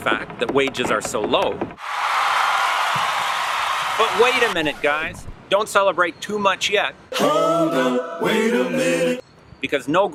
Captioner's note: cheering